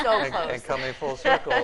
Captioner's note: laughing